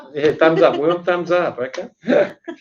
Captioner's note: laugh